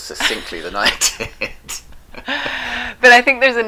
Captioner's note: laughing